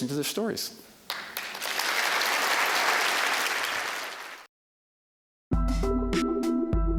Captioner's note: applause; bright, ambient tonal music